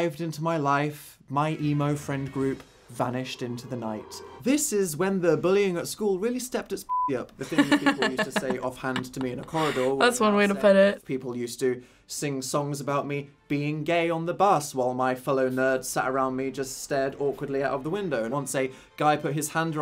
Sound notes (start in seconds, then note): 7.4 laughs